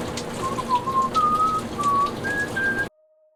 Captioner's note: whistling